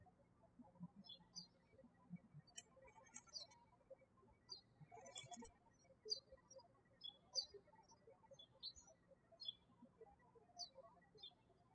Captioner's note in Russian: птички щебечут